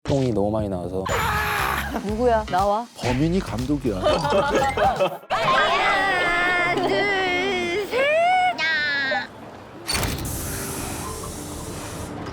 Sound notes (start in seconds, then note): 1.0 screaming; 4.0 laughing out loud